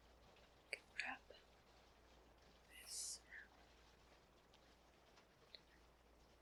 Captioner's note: whispers